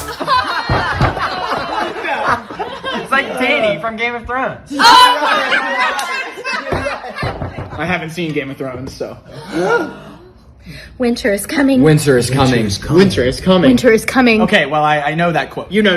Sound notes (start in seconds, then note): 0.0 laughing together; 5.6 laughter; 9.3 gasping together